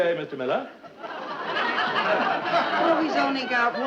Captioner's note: audience laughing